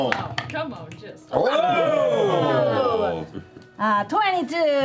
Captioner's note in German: Ausruf der Überraschung